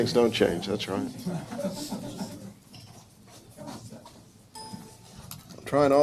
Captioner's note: audience members chuckling; computer dings